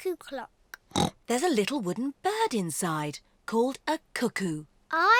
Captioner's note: oinks